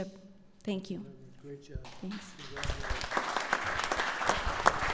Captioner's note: applause